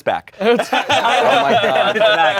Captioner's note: everyone laughs